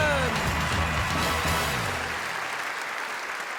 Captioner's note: crowd applauds